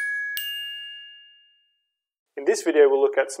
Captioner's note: chimes